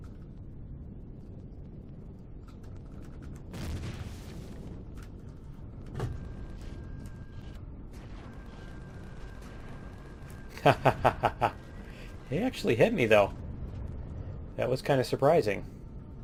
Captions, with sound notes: [explosion] [turrets firing] [laughs] He actually hit me, though. That was kind of surprising.